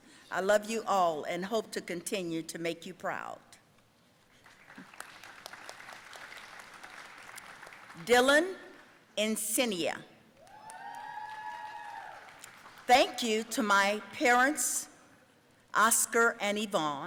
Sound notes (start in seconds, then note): 4.4 audience applauding; 10.4 audience cheering